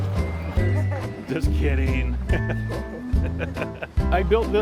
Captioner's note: laughing; laughs